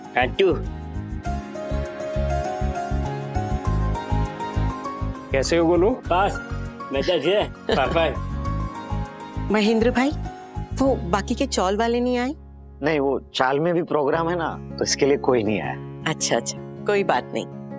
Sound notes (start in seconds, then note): 6.5 talking gibberish